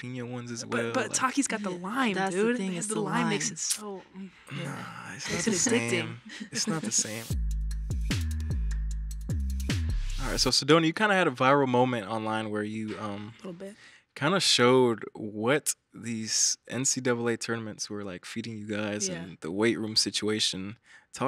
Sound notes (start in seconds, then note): 5.2 chuckles; 7.7 bright upbeat music